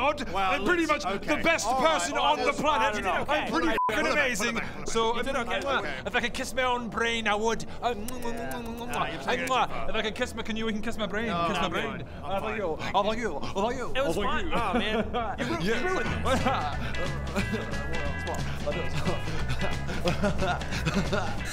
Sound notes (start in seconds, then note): 15.4 upbeat music; 19.0 chuckles in smug